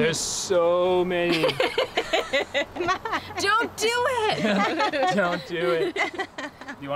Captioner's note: chuckle